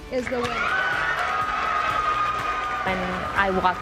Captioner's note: audience cheering and applauding